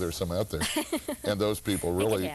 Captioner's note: laughing